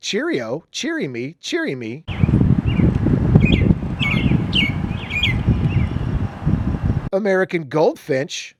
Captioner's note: bird song